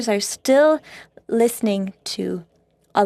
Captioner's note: speaking French